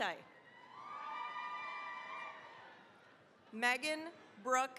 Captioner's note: cheering, applause